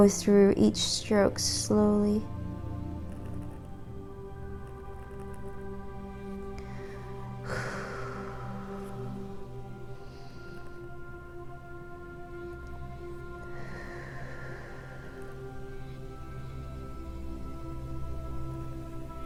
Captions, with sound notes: through each stroke slowly. (tranquil music) (exhales deeply) (tranquil music) (inhales deeply) (tranquil music)